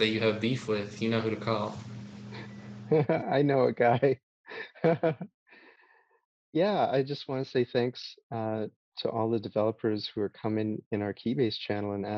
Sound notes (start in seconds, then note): 5.4 laughs